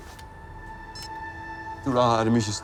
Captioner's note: beeps